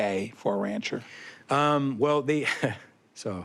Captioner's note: chuckles